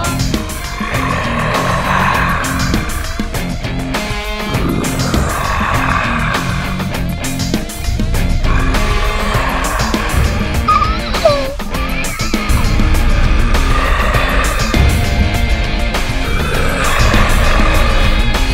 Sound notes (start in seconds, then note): 0.9 gorilla growling; 10.8 whimpering; 13.6 gorilla growling